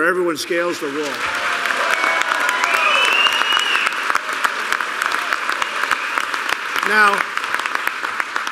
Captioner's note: applause